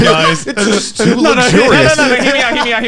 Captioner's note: laughing loudly